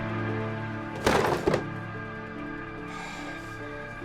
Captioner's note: drawer rattles; sighing